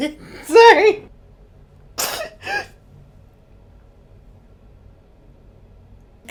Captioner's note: laughing